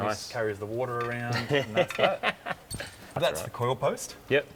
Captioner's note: chuckles